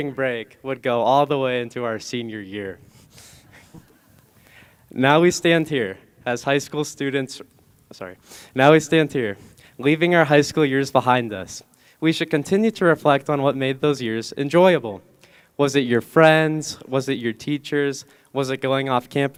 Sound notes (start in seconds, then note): none